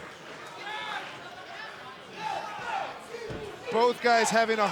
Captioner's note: crowd shouting